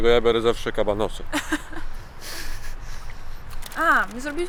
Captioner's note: laughs